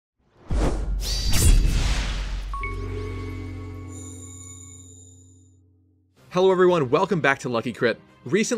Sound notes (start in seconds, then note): 0.4 swoosh; 0.6 sword slash; 2.5 intro jingle